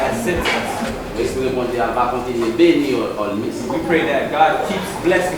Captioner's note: speaking in foreign language